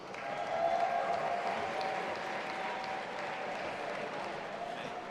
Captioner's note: audience applauding and cheering